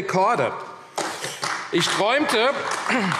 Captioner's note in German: Beifall AfD